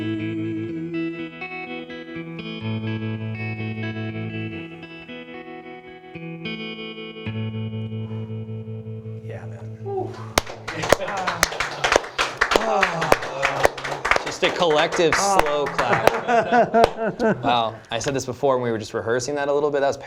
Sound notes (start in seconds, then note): 10.3 applause; 15.7 laughter